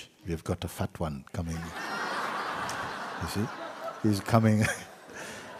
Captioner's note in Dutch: gelach